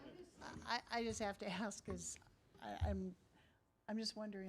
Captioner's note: laughing